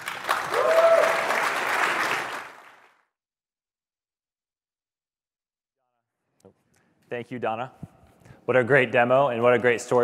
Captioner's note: applause